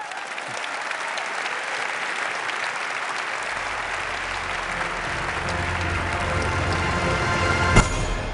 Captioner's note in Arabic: تصفيق